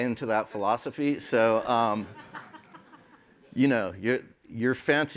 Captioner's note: laughter